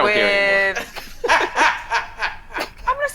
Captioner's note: laughing